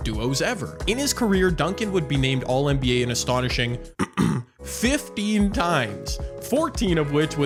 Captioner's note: clears throat